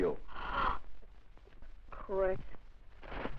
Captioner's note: gasp